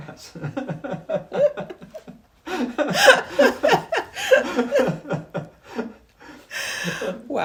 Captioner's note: both laugh